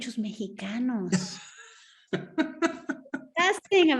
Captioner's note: laughing